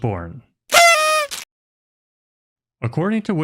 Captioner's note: party horn sound effect